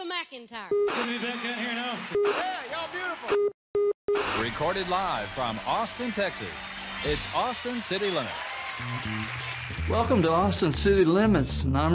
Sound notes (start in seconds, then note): 0.8 beeping TV static; 4.1 TV screen beeping